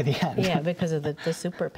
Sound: laughter

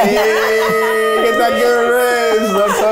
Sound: group laughs

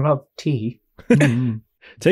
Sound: chuckles

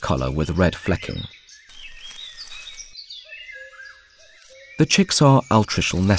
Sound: sounds of nature

